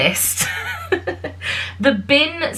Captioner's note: laughs